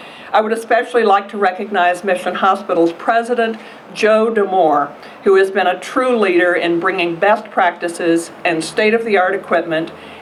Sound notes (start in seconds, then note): none